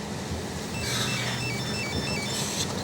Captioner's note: phone ringing